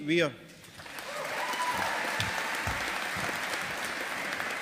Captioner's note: audience applauding